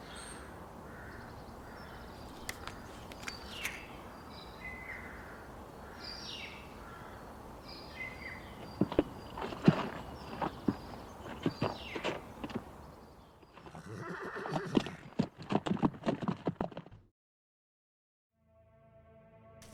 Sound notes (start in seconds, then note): 4.4 birds chirping; 9.9 horse whinnies; 16.4 horse galloping